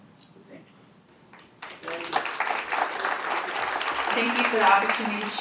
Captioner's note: applause